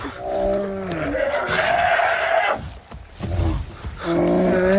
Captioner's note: bear growling; bear grunting